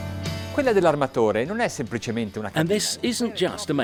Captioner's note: speaking Italian